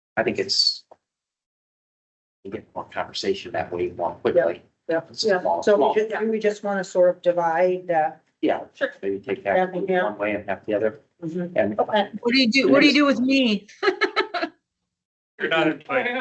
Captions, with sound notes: I think it's a conversation that we want quickly. So we just want to sort of divide. Yeah, check for you. Take that one way and half the other. What do you do? What do you do with me? [LAUGHTER] You're not in time.